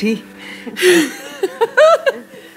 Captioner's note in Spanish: risas